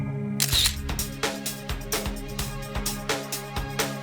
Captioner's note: camera clicks